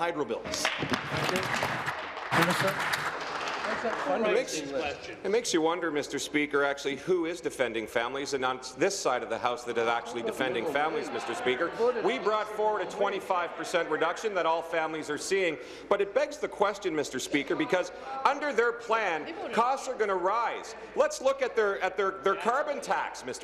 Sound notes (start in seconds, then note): 5.1 applause